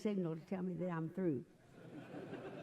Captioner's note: laughter